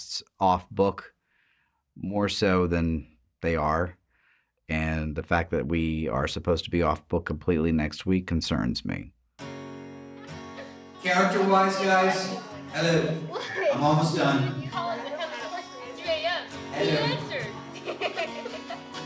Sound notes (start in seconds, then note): 14.4 indistinct chatter